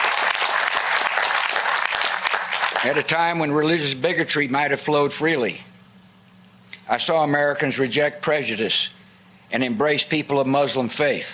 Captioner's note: applause